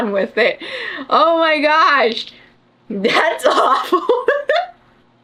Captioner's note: laughs